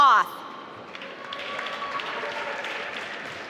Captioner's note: applause